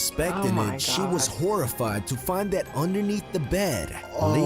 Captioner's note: voice-over